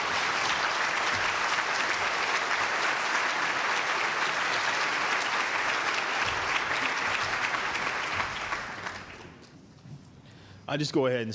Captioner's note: applause